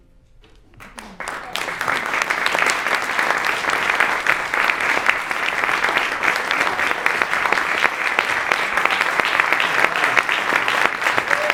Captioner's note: applause